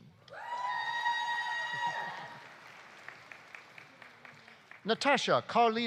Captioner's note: audience cheering; audience applauding